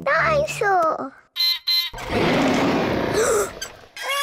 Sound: beeps and roars; gasps and cries

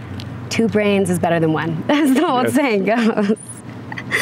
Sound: laughs

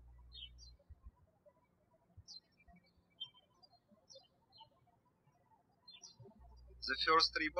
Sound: birds chirping

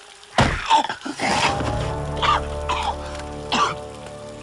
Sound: chokes, coughing

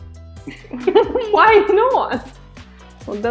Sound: laughs

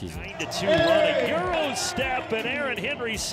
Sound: overlapping chatter

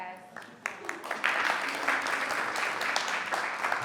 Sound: applause

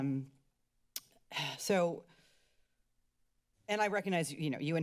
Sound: sighs

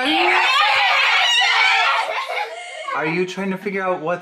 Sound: screaming

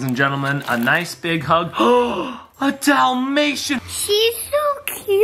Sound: gasps

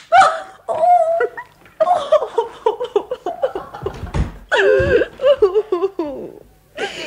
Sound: the woman cries

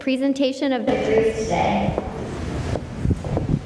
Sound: microphone malfunction

